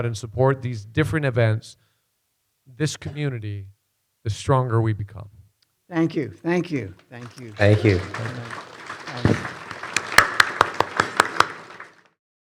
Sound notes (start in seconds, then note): 7.0 audience applauding